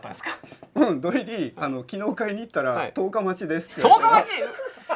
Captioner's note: laugh